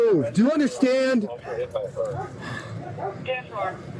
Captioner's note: radio chatter